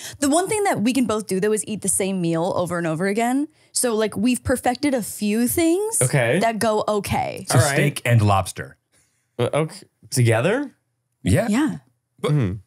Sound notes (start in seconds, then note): 6.0 laughing